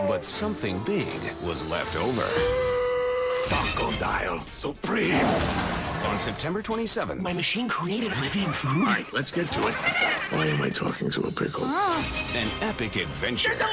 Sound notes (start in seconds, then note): 2.4 gasping; 9.6 Pickles blabbering